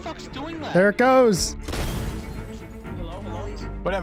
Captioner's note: explosion, sounds of glass breaking